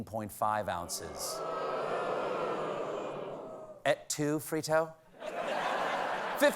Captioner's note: audience booing